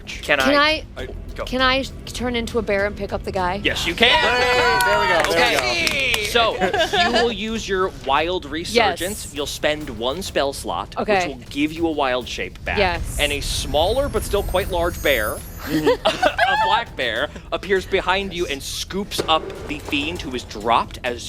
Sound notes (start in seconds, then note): 3.9 cheers and clapping